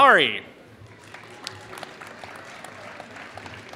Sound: applause

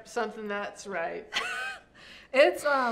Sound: chuckles

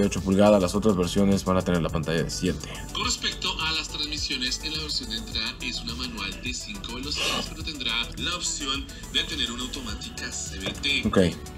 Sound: man speaking in Spanish

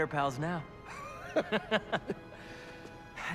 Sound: laughs

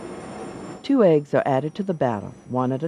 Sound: voiceover

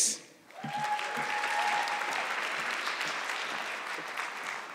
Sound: audience clapping

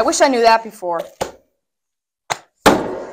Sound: boom

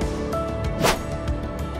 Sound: background music; swooshing sound effect

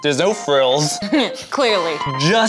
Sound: chuckles

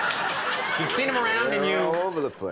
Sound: audience laughing

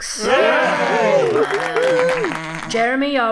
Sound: sheep cheering

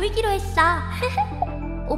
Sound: hehehe!

